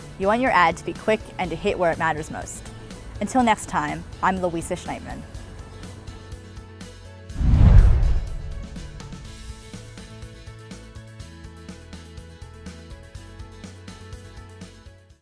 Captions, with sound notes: You want your ad to be quick and hit where it matters most. Until next time, I'm Louisa Schnaithmann. [Swoosh]